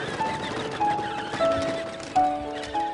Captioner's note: toy car motor